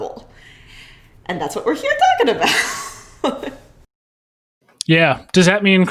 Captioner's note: chuckles